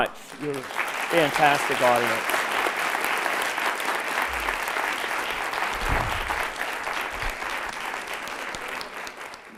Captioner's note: applause